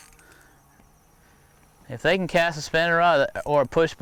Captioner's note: fishing rod reeling